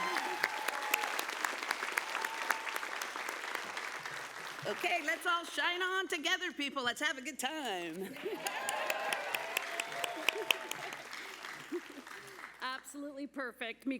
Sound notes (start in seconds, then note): 2.8 applause